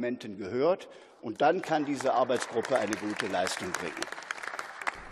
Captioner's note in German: Beifall